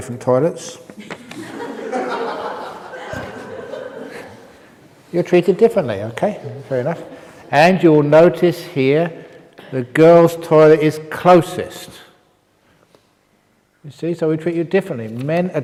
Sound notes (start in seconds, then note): 1.0 laughs